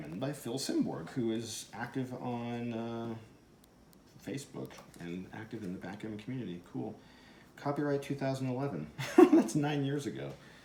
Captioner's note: guffaw!